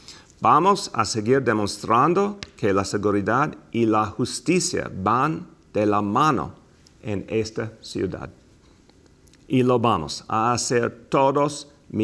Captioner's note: speaking in spanih s